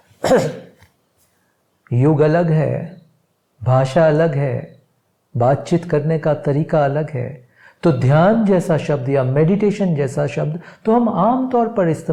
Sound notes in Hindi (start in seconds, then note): 0.2 गला साफ़ करने की आवाज़